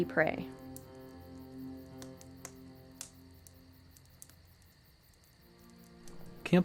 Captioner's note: sound of a crackling fire